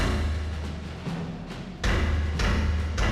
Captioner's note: heavy knocking